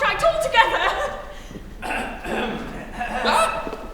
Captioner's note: Marco & Giuseppe clear their throats